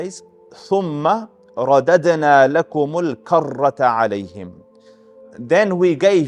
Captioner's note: Arabic